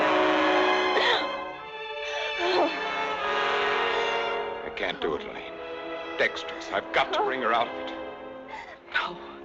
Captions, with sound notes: (Janet grunting) (suspenseful music continues) - I can't do it, Elaine. Dextrose, I've got to bring her out of it.